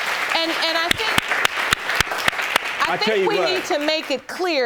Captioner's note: audience claps